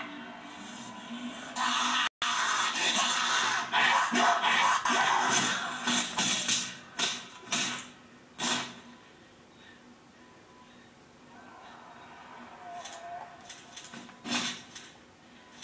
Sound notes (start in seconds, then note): 5.8 slap; 7.5 kick; 8.7 slap